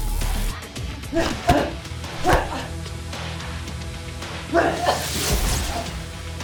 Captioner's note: smacking; grunting; zapping